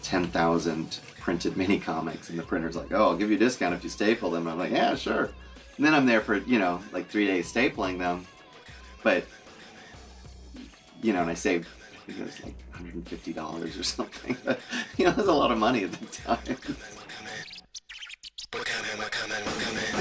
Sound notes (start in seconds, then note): 16.4 laughing